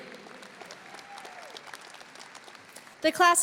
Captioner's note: audience cheering; audience applauding